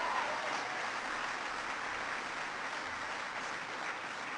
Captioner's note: applause